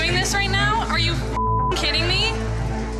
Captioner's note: beep